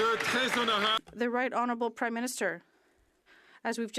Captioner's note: some Applause